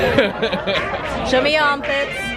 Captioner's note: laughs